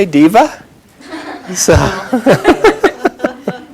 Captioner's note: chuckles